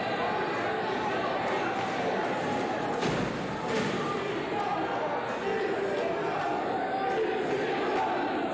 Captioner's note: cheers and applause